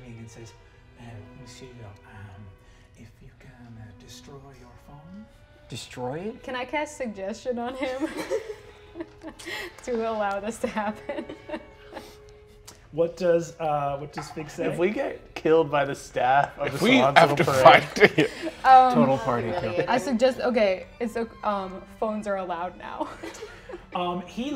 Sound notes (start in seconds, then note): 7.6 laughs; 22.9 laughs